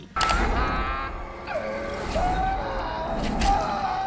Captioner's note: screaming